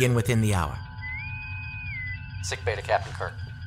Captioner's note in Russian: свист интеркома